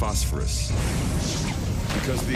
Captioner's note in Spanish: explosión en auge